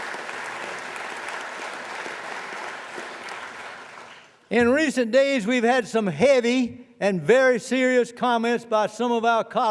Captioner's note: applause